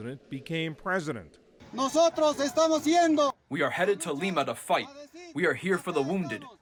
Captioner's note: through translator